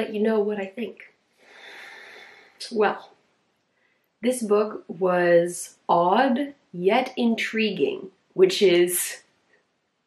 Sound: big breath

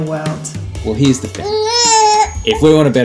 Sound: baby makes noises

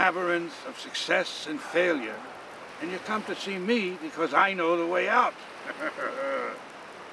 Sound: laughs

